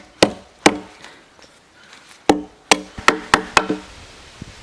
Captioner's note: birds chirping